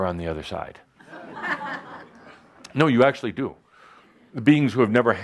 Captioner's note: laughter